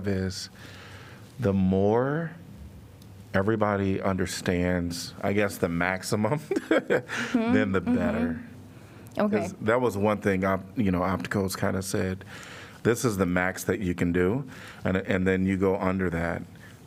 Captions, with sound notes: is the more everybody understands, I guess the maximum, [LAUGHTER] then the better. Okay. Cause that was one thing. I-you know, opticals kind of said this is the max that you can do and-and then you go under that,